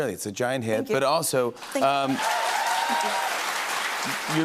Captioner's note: cheers and applause